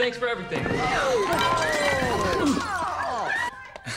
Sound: all gasping

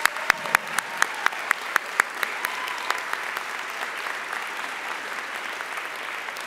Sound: audience applauding and cheering

